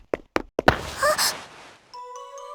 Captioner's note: gasp